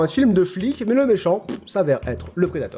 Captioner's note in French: bruit de pet